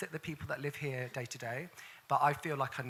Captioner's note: none